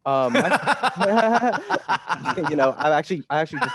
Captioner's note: Takashi laughing